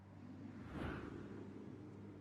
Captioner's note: whooshing sound; ominous humming growing louder